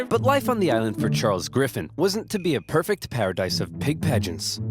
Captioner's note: none